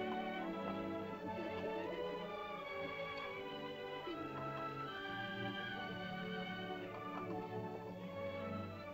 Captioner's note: soft music; children's voices; soft music